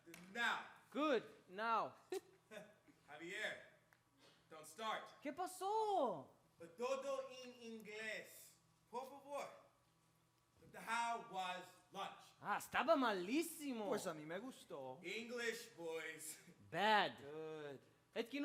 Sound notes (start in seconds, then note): 5.2 speaks in Spanish; 12.5 speaks in Spanish; 18.2 speaks in Spanish